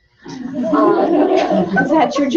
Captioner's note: laughter